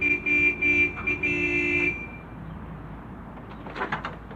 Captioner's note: car horn honks